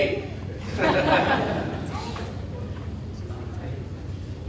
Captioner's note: audience laughing